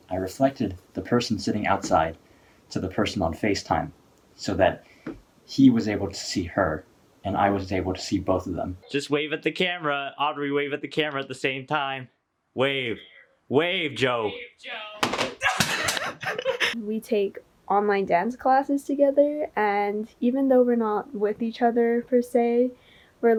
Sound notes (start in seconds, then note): 15.0 clattering noise; 15.4 laughter